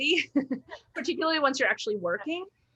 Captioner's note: chuckles